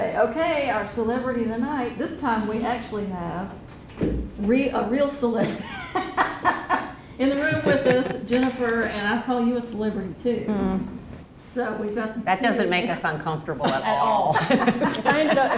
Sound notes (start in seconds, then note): 7.3 laughs